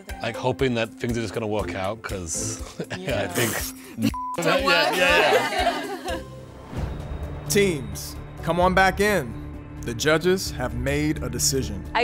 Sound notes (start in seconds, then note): 4.1 beep; 4.4 laughing